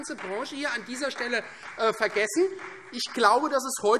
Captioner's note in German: Beifall Freie Demokraten